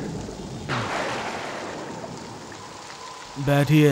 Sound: thunder rumbling

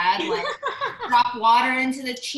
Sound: laughs

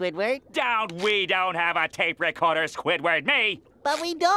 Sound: none

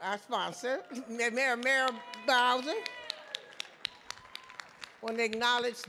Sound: audience clapping

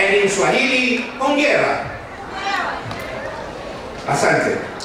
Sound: speaking in foreign language

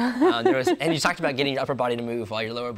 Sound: laughs

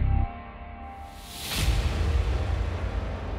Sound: whooshing sound; dramatic music

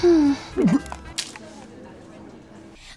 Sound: throws up in disgust

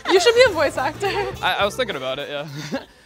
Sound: laughs

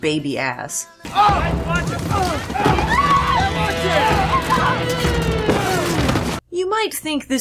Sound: bike accident noises

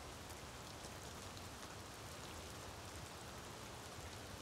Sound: rain falling

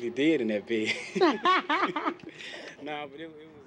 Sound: laughter

